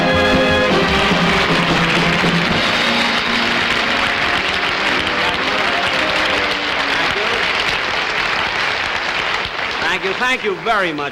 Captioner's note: audience Applauding